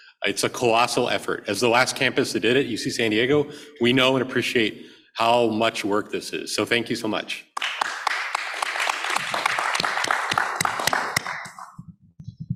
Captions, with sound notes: It's a colossal effort. As the last campus that did it, UC San Diego, we know and appreciate how much work this is, so thank you so much. [APPLAUSE]